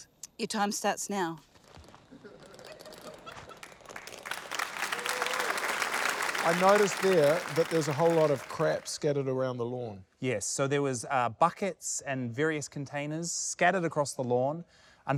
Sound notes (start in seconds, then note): 4.1 applause